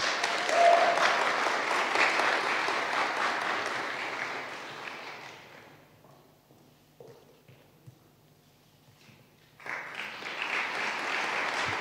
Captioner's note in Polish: oklaski